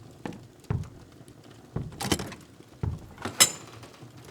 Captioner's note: your door opens